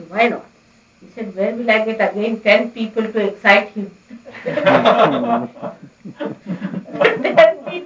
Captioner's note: laughter